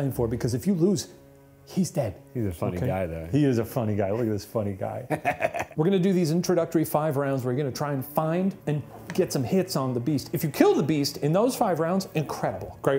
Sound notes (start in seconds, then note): 5.0 chuckles